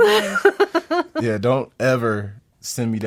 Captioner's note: laughing